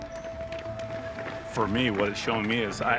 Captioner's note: jogger running